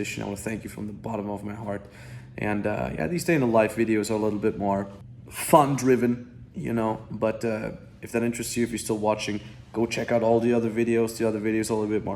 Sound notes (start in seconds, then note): none